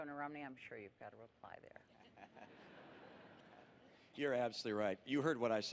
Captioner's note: laughter